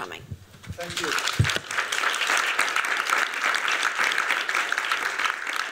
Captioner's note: applause